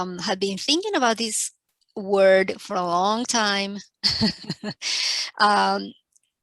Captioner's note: laughing